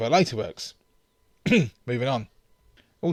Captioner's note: ahem